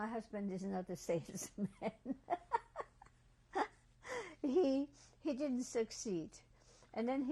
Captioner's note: laughs